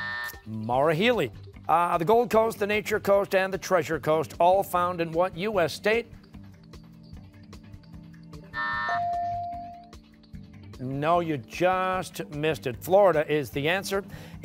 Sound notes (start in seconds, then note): 0.0 buzzer; 8.5 buzzer; 8.8 ringer dings